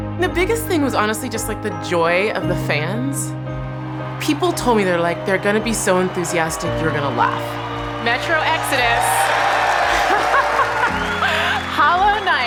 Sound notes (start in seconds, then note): 9.8 laughing